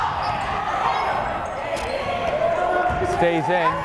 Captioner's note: yelling